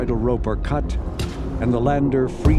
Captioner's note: soft bang